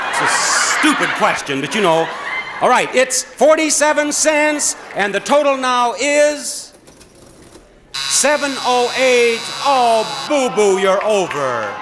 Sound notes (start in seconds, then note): 7.9 cash register whirs; 7.9 buzzer buzzes